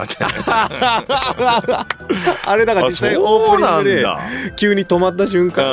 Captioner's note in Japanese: 笑い